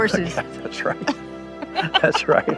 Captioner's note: laughs